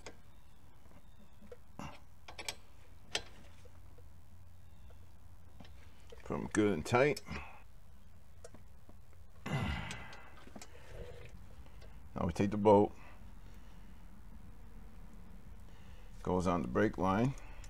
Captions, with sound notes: get them good and tight (grunting) now we take the bolt goes on the brake line